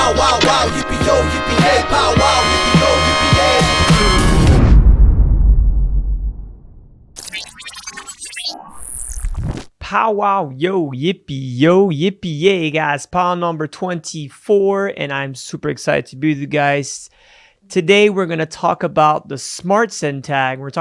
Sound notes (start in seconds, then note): 4.5 deep thrumming; 7.1 electronic beeping